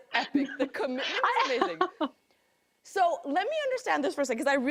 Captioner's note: laughing